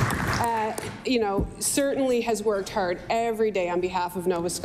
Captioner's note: applause